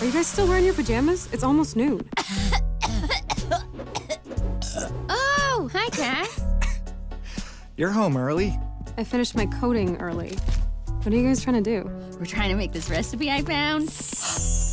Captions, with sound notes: Are you guys still wearing your pajamas? It’s almost noon. (coughing) (burps) Oh, hi Cass! You’re home early. I finished my coding early. What are you guys trying to do? We’re trying to make this recipe I found. (gasps)